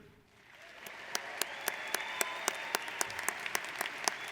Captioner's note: audience applauds